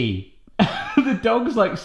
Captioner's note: laughing